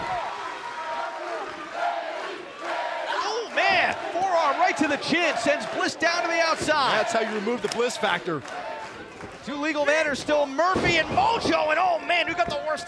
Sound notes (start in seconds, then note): 2.9 fans chanting